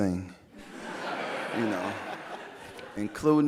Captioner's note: audience laughing